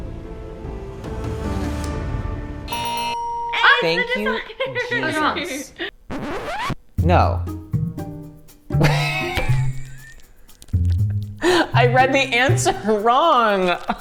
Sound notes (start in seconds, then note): 0.0 suspenseful music; 2.6 bell ringing; 2.7 buzzer ringing; 6.0 record scratch